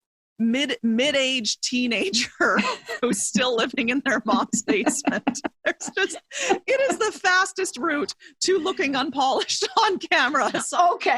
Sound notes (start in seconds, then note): 2.1 chuckles; 6.0 laughs